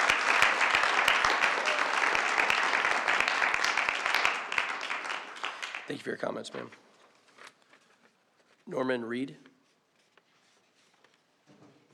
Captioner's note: applause